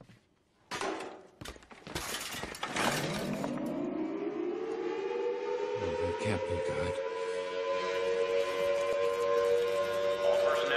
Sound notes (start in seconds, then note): 0.7 metal banging; 2.9 siren blaring